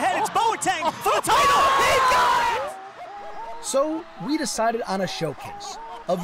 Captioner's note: cheering